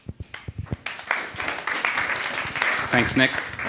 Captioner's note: audience applause